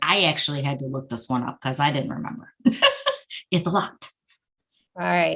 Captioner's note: laughing